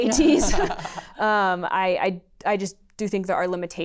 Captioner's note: laughter